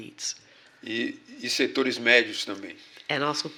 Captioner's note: speaking portuguese